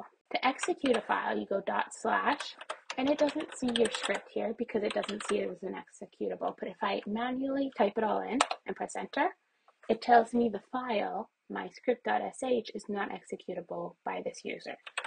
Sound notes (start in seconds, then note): 2.3 keyboard presses; 8.3 keyboard press